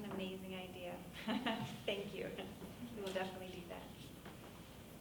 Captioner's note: laughs